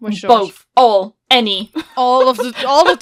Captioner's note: laughs